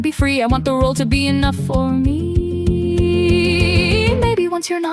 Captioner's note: female voice 1